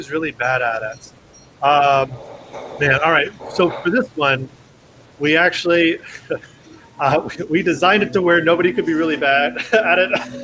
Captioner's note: laughs